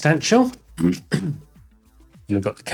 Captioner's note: clears throat